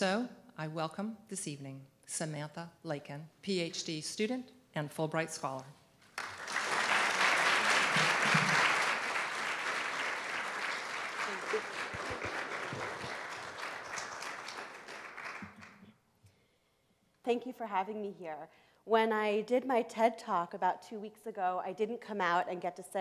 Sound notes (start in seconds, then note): 6.0 applause